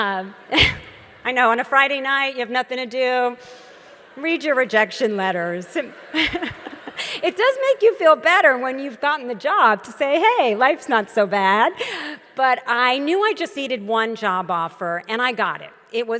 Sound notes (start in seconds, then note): 5.4 audience laughs; 5.8 laughs